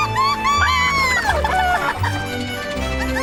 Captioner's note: squwaking